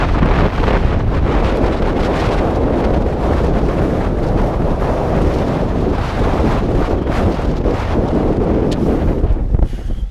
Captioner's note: wind noise